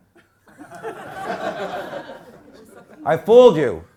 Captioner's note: crowd laughs